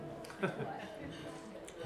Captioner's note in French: rires